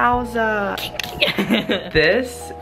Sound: maniacal giggle

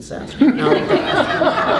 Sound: laughter

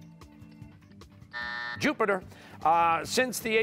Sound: buzzer

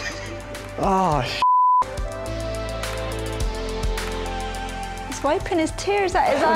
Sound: laughter; beep

